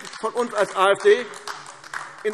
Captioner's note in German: Beifall AfD